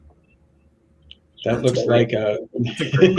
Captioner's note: laughs